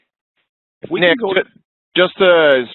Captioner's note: voice muffled